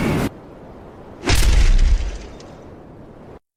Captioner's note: wind sounds; loud crash